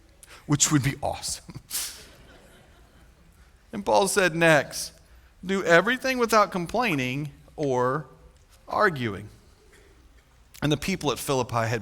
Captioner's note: chuckle